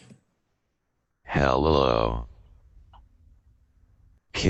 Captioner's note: slow Computerized Voice